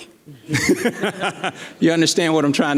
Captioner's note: laughing